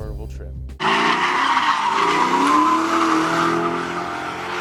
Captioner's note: car engine revving